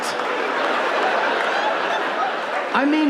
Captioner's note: audience laughing